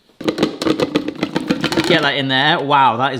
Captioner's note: can clatters